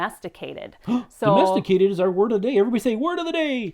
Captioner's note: gasps